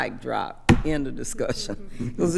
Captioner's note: thumps table